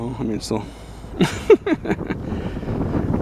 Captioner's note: laughing